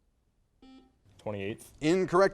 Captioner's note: buzzer noise